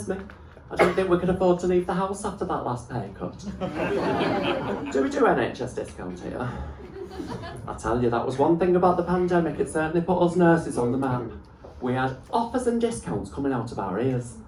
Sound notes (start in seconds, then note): 3.4 laughter